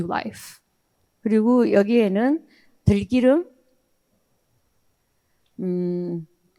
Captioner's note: speaking in foreign language